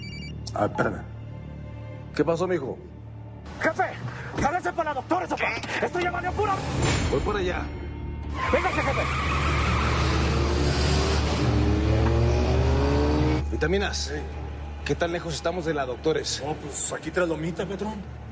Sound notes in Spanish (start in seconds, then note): 8.2 Chirrido de llantas